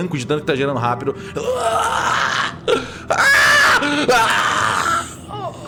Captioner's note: screams